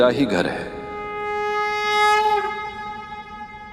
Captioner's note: conch blows